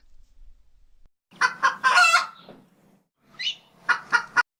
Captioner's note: rooster crows